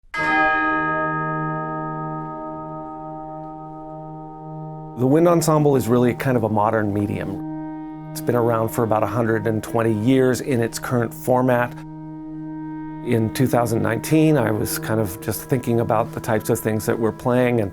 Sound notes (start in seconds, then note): 0.0 church bell rings